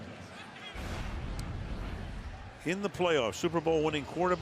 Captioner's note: swoosh